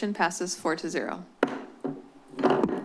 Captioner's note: gavel tap